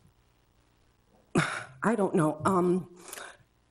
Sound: sighs

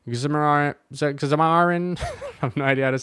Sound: laughs

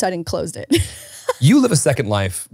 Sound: laughs

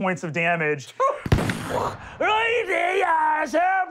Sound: gunshot

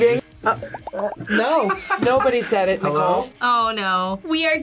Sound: laughs

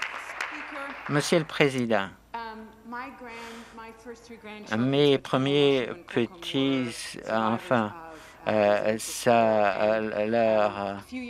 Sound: some Applause

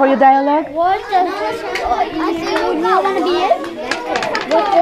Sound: students chattering

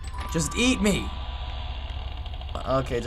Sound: creaking noises

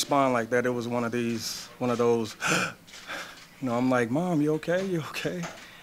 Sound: gasps

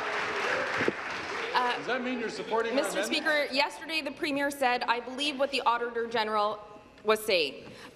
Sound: some Applause

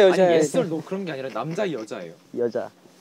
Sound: argh

